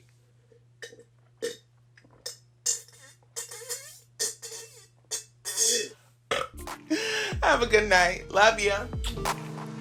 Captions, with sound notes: [SIPS DRINK] [BURPS] Have a good night, love ya'!